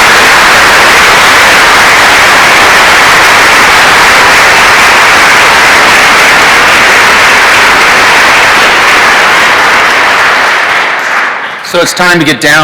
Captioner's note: applause